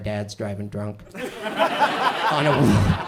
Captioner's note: audience laughs